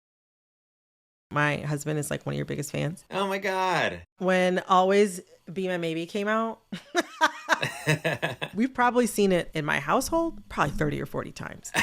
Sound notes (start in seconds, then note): 6.7 laughter